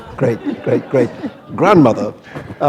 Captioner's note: laughter